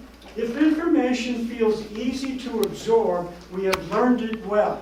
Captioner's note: none